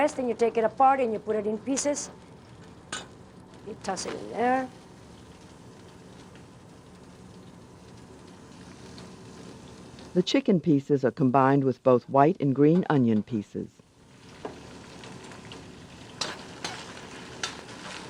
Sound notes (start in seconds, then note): 10.4 voiceover; 13.8 chicken sizzles